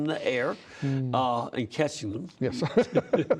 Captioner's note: laughter